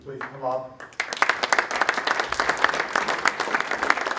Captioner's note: applause